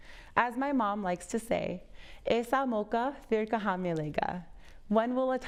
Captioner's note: speaking foreign language